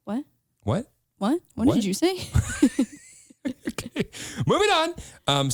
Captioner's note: laughs